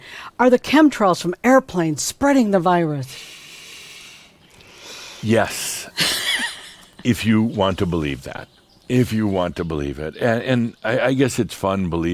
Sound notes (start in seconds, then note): 3.1 inhales deeply; 5.9 laughs